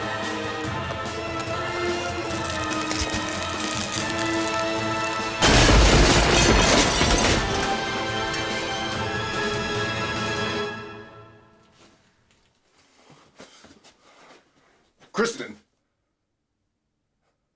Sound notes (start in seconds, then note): 2.7 mirror cracking; 5.2 mirror shattering; 8.5 dramatic music